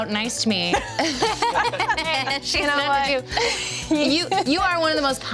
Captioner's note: everyone laughs